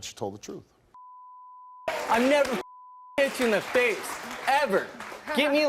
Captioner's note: beep